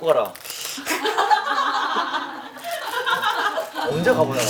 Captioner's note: laughing